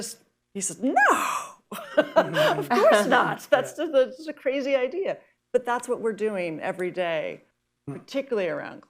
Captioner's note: laughter